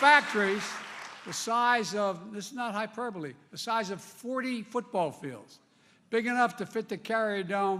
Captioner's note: applause